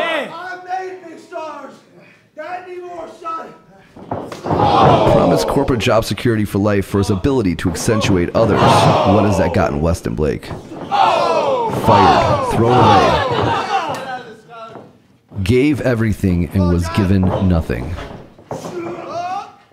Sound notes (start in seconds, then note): 10.8 audience cheering